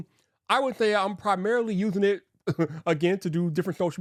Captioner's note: chuckles